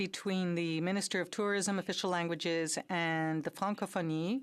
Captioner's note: speaking french